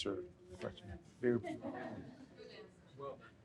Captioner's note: audience laughs